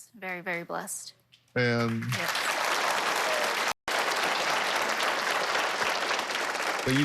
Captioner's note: applause